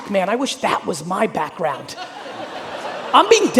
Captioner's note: audience laughing